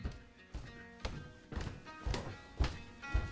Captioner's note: footsteps